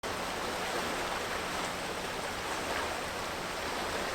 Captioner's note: water rushing